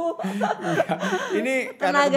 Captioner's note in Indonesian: tertawa